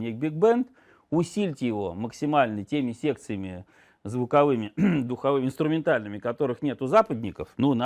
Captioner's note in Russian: откашливается